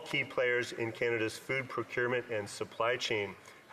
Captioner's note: speaking French